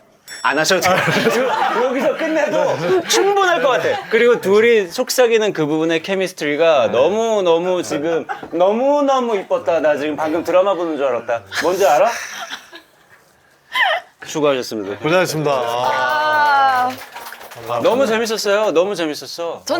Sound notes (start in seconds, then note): 15.6 finished with quick applause